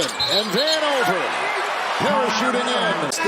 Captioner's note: whistle